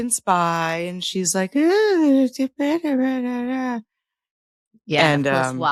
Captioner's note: humming